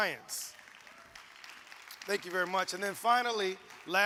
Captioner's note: audience applauds